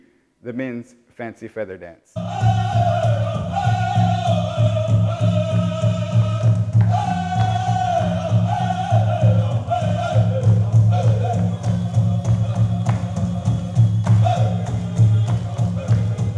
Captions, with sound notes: the men's Fancy Feather Dance. [MEN CHANTING][DRUM BEATING]